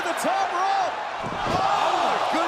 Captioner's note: crowd cheering